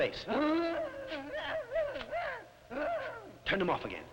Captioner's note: Popoca moaning